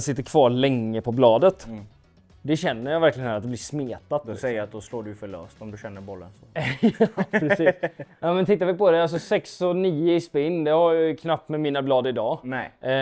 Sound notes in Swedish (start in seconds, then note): 6.5 skratt